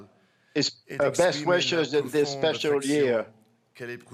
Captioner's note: speaking French